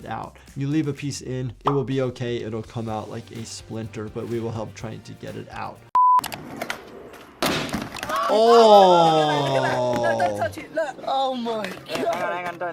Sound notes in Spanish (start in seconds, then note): 6.2 clic; 6.4 golpes de patineta; 8.0 los niños gritan